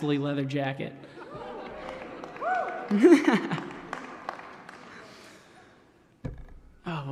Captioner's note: laughter